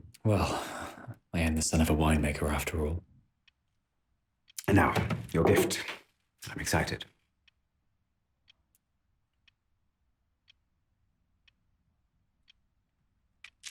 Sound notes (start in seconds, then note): 8.3 clock ticking continues